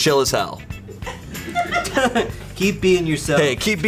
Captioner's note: colleagues laughing